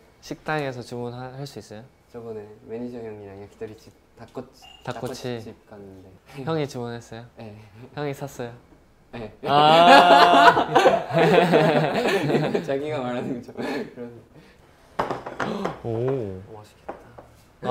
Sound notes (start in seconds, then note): 9.4 laughing